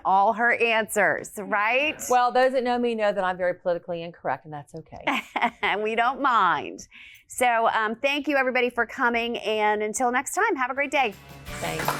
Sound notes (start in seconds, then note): 6.0 laughs